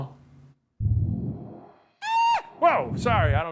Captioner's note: magical whomping; screaming